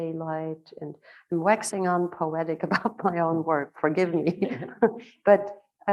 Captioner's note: chuckling